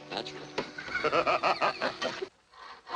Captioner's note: laughter